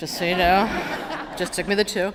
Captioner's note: laughter